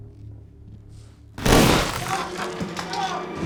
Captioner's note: shotgun blast